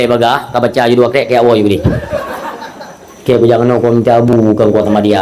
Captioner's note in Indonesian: tertawa